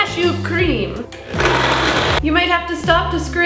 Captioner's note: blending whirring